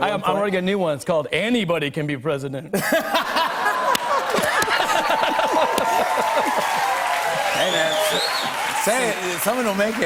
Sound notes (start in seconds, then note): 2.9 laughter, cheers, applause